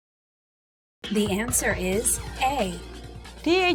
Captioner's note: female announcer speaking